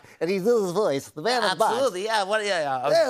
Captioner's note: nasally voice